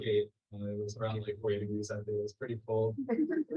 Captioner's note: mutters